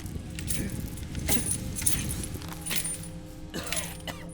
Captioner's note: chains rattle; Dom coughs